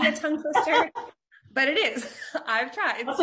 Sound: laughing

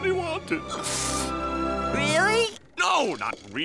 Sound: sniffling

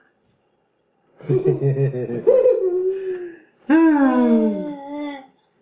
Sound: giggling

